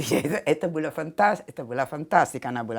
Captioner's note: laughter